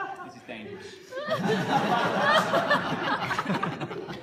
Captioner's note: laughter